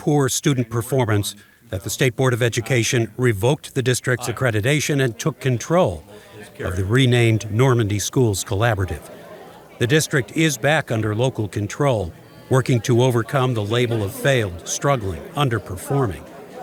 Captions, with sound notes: of consistently poor student performance that the State Board of Education revoked the district's accreditation and took control of the renamed Normandy Schools Collaborative. The district is back under local control, working to overcome the label (people chattering) of failed, struggling, underperforming.